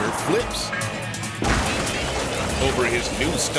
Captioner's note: car crashes